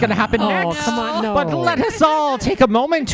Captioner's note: groans